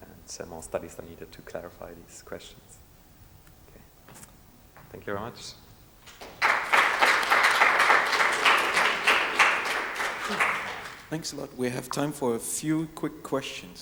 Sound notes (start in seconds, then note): 6.0 audience applauding